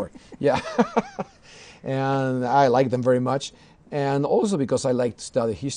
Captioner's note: laughter